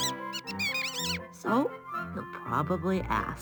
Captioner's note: mouse squeaking